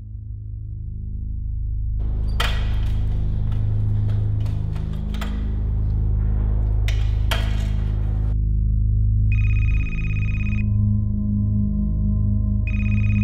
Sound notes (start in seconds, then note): 9.3 phone rings